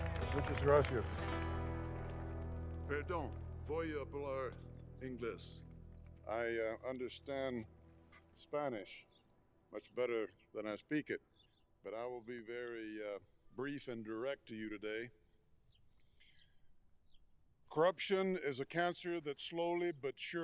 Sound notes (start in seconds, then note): 2.8 applause